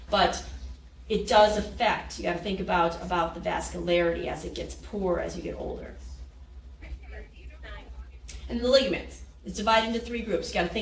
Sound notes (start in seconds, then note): 6.8 people chattering